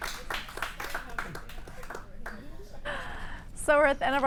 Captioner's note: applause